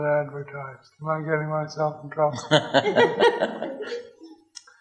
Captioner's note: audience laughs